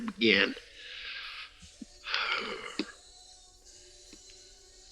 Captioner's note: Cyrus Sighing